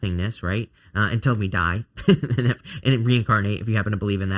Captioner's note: laughs